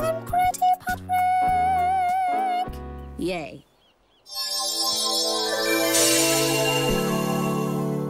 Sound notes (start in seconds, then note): 4.3 bell jingles